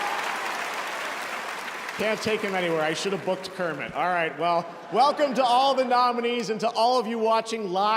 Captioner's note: cheers and applause